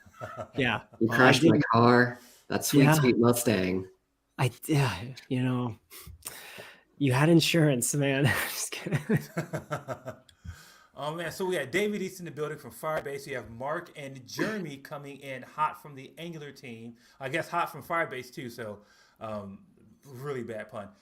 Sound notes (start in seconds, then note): 5.6 sigh; 8.8 laughter